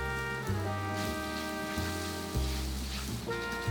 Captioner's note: sizzling